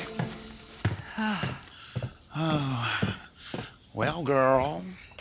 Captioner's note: sighs